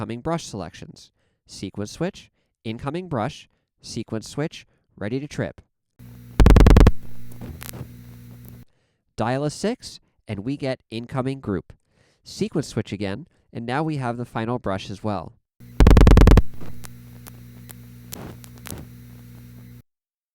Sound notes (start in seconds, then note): 6.3 5 loud clicks, several fast quiet clicks, thhip; 15.7 6 loud clicks, 4 quiet clicks, thhp, click, click, thhp